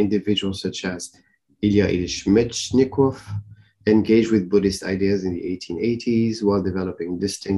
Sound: russian

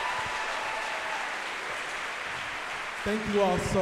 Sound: applause

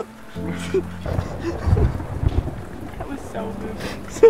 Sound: thunder

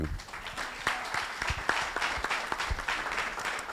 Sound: applause

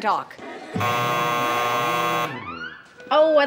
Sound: buzzing

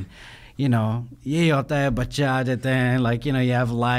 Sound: speaking in foreign language

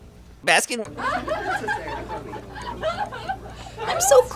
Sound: customers laughing

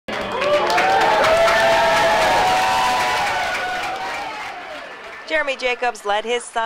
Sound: cheering

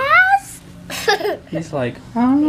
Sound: laughter

